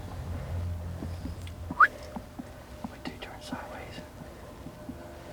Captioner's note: whispering